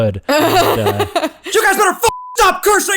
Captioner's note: laughter